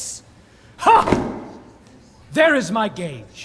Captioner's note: gage hits the ground